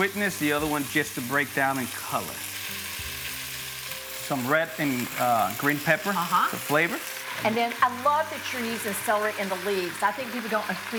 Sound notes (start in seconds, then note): 3.7 vegetables sizzling